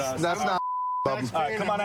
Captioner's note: chatter